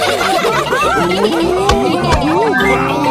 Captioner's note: laughing